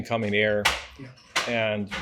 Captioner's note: items falling